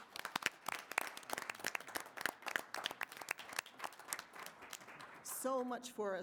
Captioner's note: applause